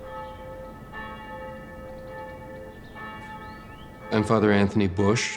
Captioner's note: church bells ringing